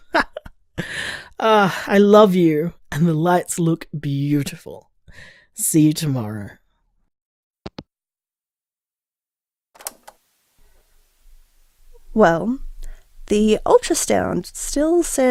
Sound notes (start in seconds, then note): 0.1 laugh; 7.6 hangup; 9.8 cassette noise